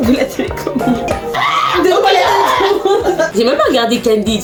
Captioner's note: laughs; aghhh